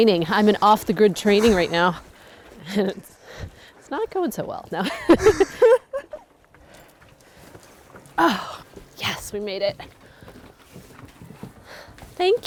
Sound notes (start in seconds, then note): 4.8 laughter